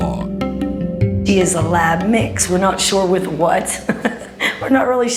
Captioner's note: chuckles